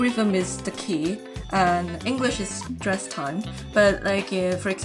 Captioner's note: strong syllables at regular intervals, weak syllables squish together